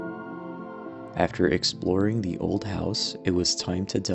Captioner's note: voice-over